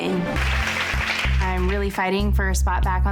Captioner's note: girls applauding